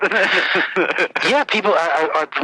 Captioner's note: laughs